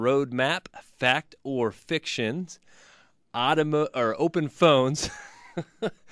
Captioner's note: laughs